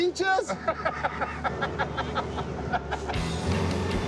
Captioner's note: laughs